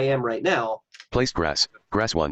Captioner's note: computer Voice